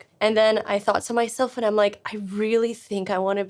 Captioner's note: none